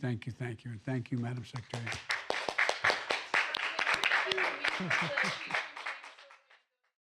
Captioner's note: applause